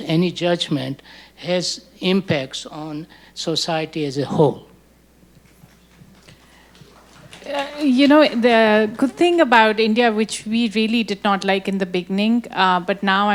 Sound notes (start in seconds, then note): 5.6 audience clapping